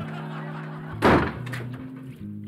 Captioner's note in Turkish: Gülme efekti; Kapı sesi